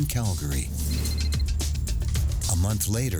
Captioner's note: cell phone ringing